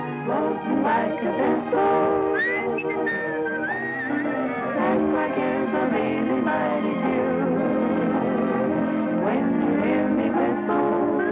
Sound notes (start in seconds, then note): 0.5 singing; 2.3 whistling; 5.1 singing